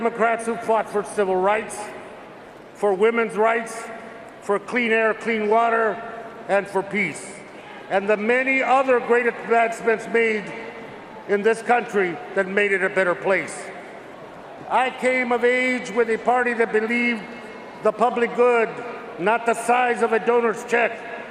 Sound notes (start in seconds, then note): none